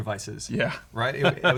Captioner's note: laughs